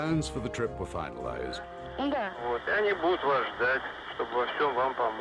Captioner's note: couple speaking in Russian